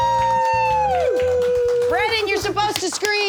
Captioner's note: audience applauds